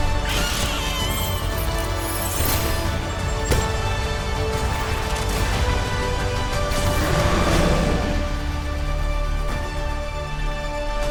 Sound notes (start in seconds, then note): 0.0 Hammond squeaks; 6.7 Winston roars; 8.4 music crescendos